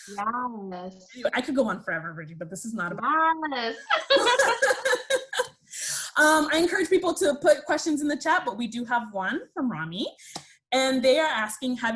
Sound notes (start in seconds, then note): 3.7 laughs